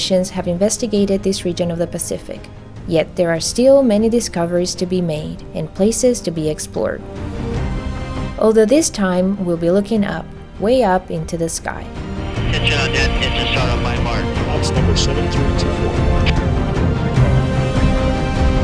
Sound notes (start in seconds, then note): 12.7 radio chatter